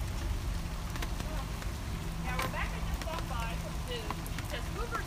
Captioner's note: rain